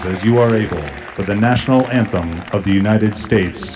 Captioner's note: applause